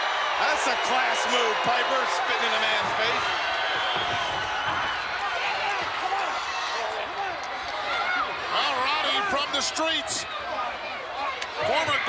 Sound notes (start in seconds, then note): 3.7 crowd cheering